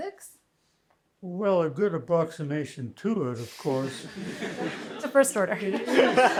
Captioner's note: laughter